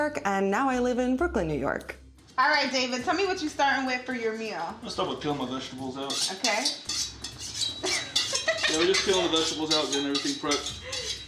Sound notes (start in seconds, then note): 6.0 knives sharpening; 7.8 laughing